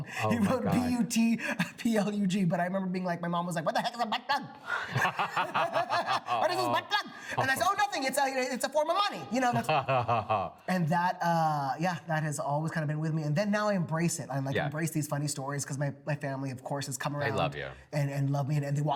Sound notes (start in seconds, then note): 4.7 laugh; 9.5 laughs